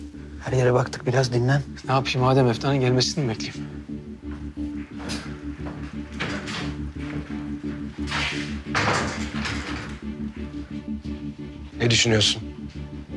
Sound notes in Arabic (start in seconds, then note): 5.1 موسيقى توتر; 8.6 يغلق الباب